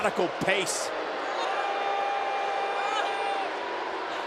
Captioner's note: crowd boos